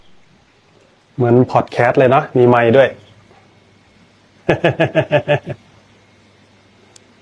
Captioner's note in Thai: เสียงหัวเราะ